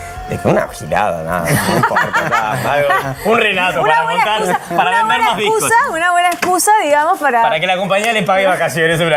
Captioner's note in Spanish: risas